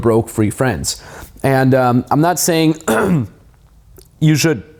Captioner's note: clears throat